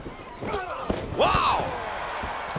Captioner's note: applause